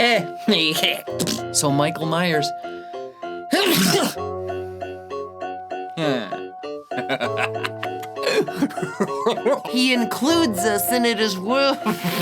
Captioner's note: sneeze